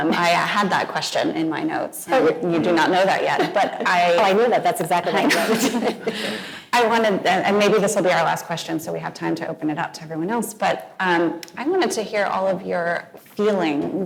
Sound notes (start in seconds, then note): 5.1 both laughing